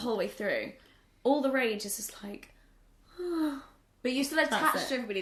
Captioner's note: sighs